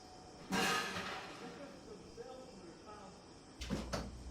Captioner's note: metal clanking